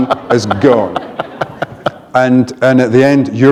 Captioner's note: laughter